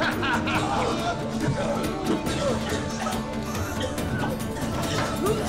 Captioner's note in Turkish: Gülme sesi; Boğulma sesleri